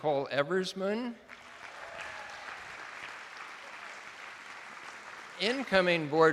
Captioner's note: attendees applauding